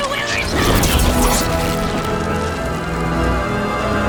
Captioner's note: zapping